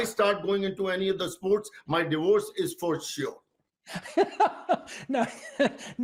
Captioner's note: laughing